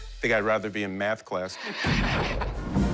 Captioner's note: laughter